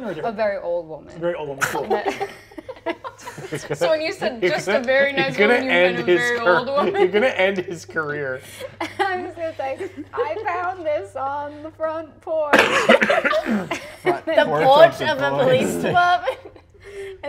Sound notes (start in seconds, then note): 1.6 players laughing; 12.4 coughs; 12.5 players laughing